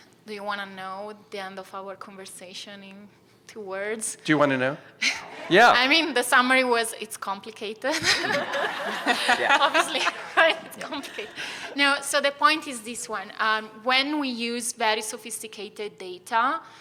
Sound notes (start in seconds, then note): 5.0 chuckles; 7.9 laughter